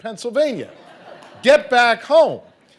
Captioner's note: audience laughing